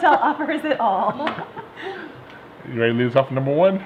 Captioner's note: laughing